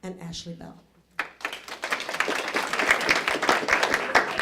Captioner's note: applause